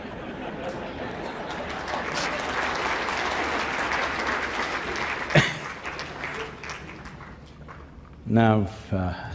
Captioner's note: laughter; applause